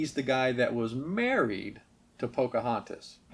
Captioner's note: lifts voice